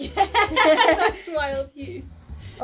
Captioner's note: laughing